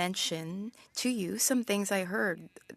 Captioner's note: speaking French